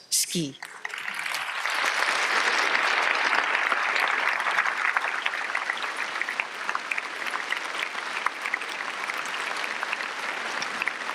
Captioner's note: applause